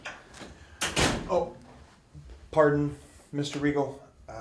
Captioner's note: knocking